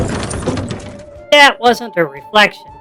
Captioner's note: they hear a loud bang from behind them